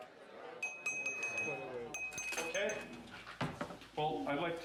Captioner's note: glass clinking